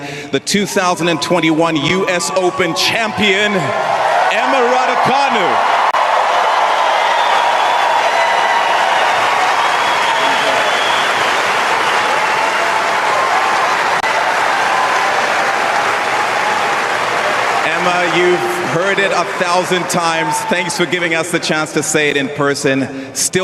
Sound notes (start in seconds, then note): 7.9 applause; 7.9 cheers